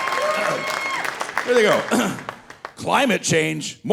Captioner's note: coughs